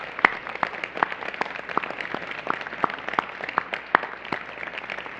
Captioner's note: applause